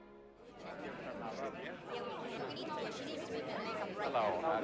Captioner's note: chatter